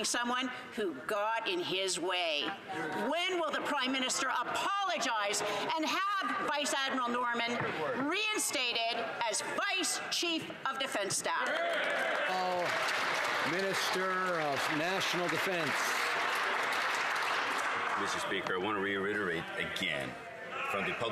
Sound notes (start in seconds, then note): 15.3 some Applause